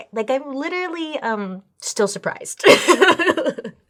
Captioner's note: laughs